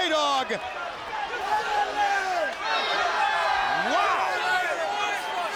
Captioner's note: people chattering